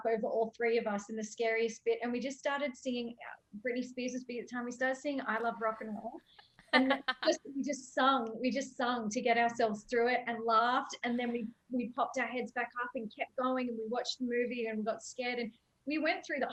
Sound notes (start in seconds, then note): 6.7 laughing